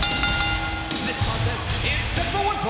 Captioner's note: pyro blasting; bell ringing